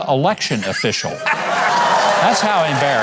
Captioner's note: audience cheers